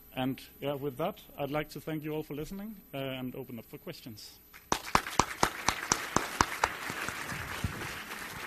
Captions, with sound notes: And with that, I'd like to thank you all for listening, and open up for questions. (audience clapping)